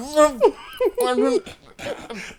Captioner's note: laughing